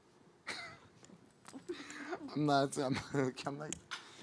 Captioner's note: laughing